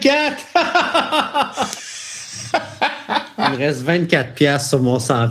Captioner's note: laughs